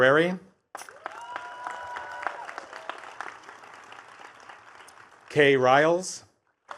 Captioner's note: attendees cheering and clapping